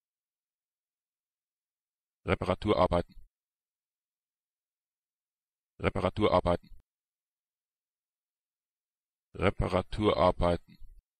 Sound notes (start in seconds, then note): 2.7 fast Pronunciation; 6.3 fast Pronunciation; 10.1 fast Pronunciation